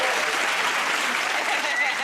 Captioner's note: cheers and applause